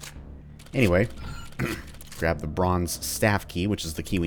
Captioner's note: clears throat